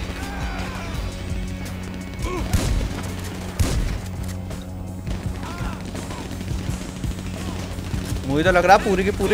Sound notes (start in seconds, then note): 2.1 yelling